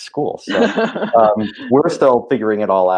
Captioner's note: laughing